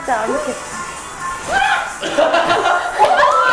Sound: what was that animal sound

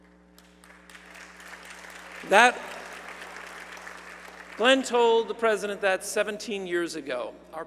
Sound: applause

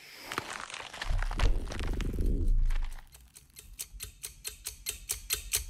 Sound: creature squelching; clock ticking

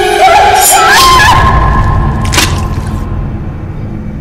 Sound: Melissa screams

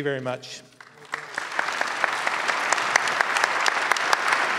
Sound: clapping

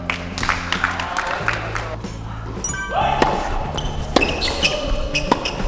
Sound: applause

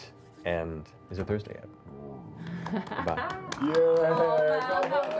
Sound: cheering

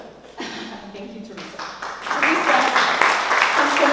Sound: applause

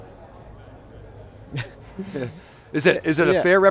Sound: laughter

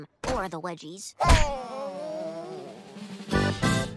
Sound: groaning

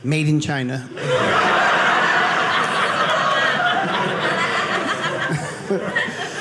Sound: audience laughing

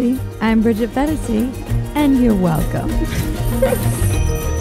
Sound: laughing; upbeat music

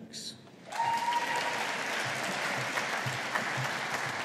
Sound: audience applauding

